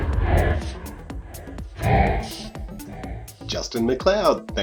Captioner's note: synthesized voice